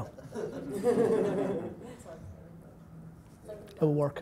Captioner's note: laughter